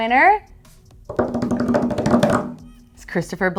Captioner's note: hands drumming